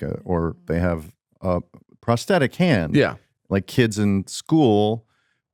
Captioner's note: none